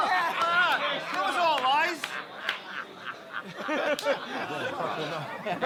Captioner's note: laughing